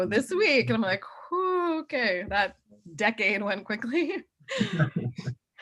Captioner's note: laughs